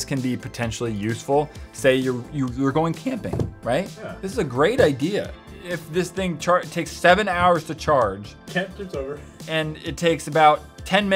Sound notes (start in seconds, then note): none